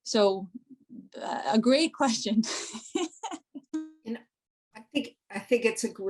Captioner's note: laughter